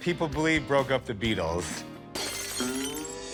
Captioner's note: shattering glass